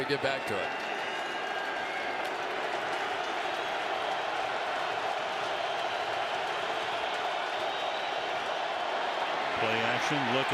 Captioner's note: crowd cheering